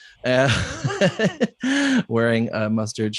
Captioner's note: laughs